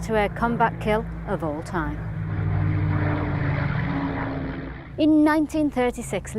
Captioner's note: aeroplane rumbling